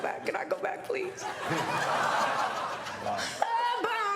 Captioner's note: studio audience laughs